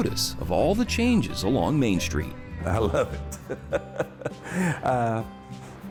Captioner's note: laughs